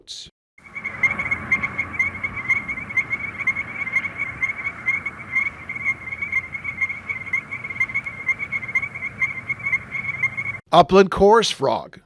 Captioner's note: Strecker's chorus frog call